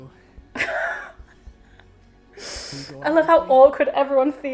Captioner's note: laughing